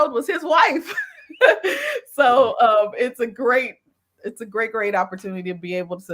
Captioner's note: laughs